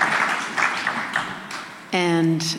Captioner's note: applause